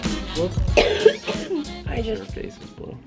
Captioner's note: coughing